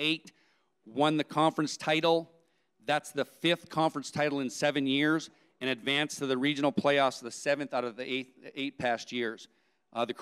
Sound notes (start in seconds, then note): none